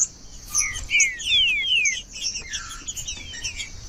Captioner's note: trinca ferro cantando